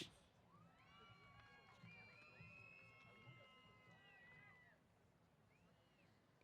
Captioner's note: applause & Cheers